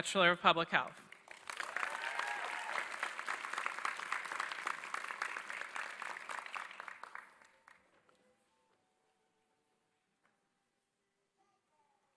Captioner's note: applause